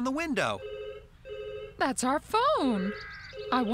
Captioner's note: phone Rings